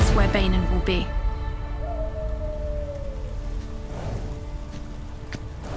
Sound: animal howls in the distance

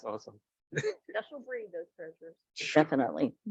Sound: speaks faintly

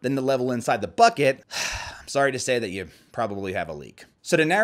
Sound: sighs

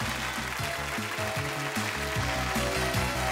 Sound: applause

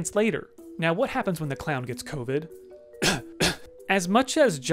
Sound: cough cough

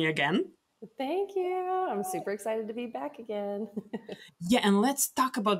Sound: laughs

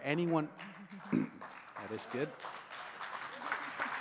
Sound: audience claps and cheers

